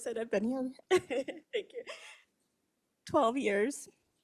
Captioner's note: laughs